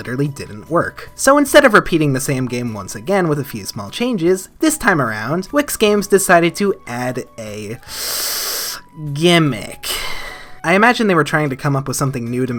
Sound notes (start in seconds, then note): 7.8 hiss/inhale